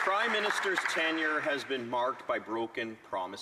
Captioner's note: applause